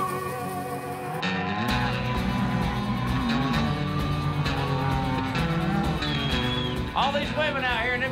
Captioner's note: bulls grunting